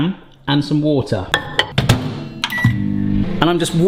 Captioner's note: microwave beeps